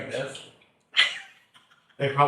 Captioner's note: chuckles